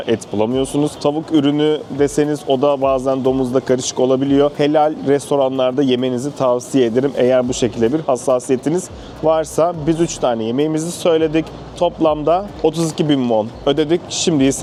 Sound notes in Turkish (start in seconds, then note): none